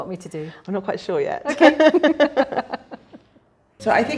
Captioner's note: laughs